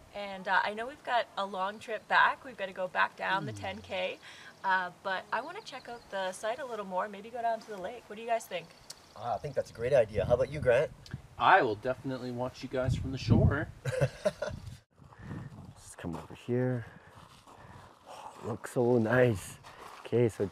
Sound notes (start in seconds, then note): 13.8 laughs